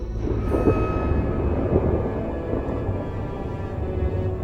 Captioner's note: thunder